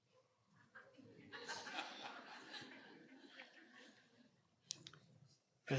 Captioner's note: audience laughing